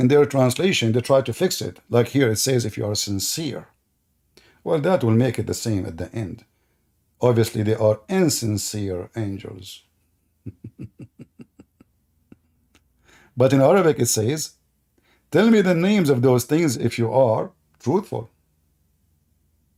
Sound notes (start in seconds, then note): 10.4 Ketawa